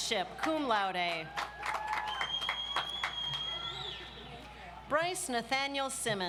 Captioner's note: audience applauds